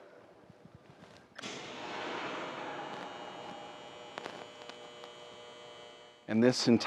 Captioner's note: observatory shutters buzzing and creaking